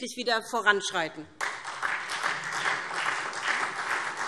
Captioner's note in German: Beifall SPD